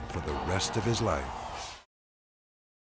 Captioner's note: scene swooshing; dramatic music